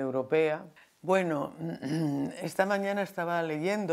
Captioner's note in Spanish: carraspea